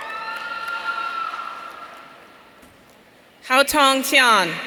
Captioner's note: audience cheering